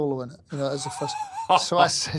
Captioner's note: laughs